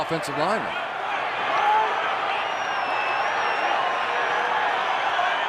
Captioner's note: onfield chatter, cheering